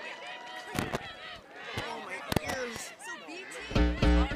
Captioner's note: cheering; chatter